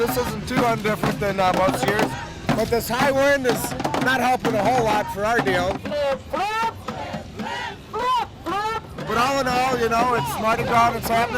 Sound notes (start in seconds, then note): 7.7 crowd; 9.5 crowd